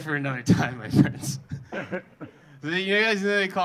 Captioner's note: audience laughing